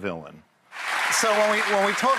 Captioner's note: crowd applauds